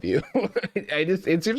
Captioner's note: laughs